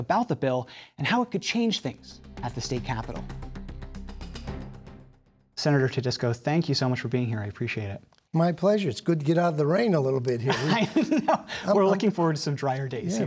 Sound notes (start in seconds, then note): 10.4 chuckles